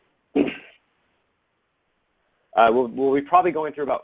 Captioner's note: clears throat